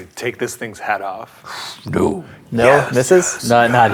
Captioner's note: exhales